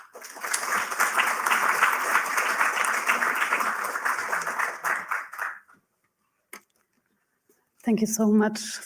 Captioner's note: applause